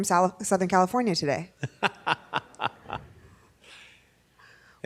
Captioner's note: laughs